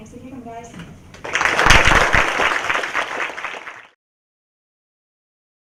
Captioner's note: applause